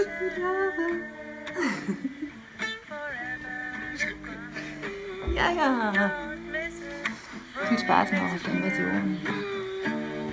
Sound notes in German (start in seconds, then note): 3.1 lacht; 9.5 Musik spielt